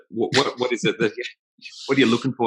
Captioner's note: laughs